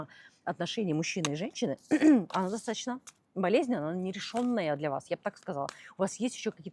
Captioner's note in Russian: откашливается